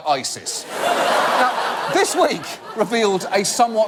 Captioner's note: audience laugh